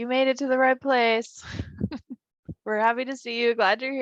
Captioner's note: giggles